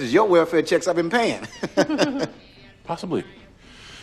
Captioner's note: laughs